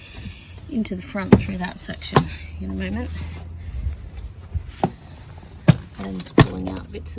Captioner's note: loud thudding noises